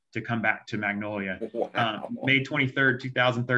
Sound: laughs

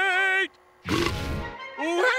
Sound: belching

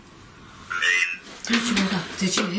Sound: voice from Ovilus

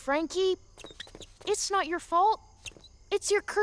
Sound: shoes squeaking on floor

